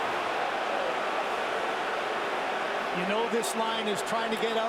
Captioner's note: crowd noise